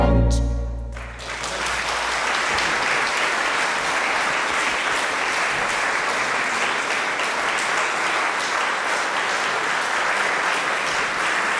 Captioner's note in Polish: oklaski